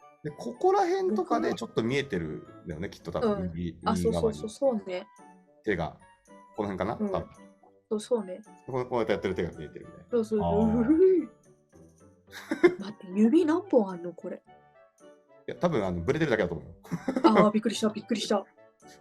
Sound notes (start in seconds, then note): 12.3 laugh; 12.4 nervous laughter